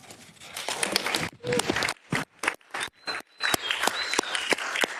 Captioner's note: audience clapping